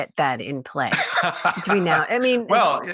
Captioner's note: laughing